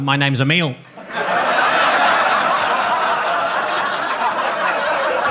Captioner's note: audience laughs